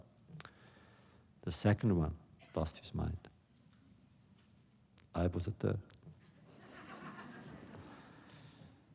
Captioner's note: laughter